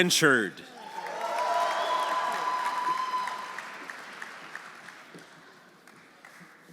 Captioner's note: audience cheering; audience applauding